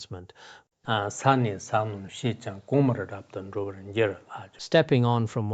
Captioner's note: giving oral transmission in Tibetan